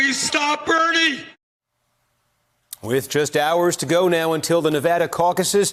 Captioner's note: cheers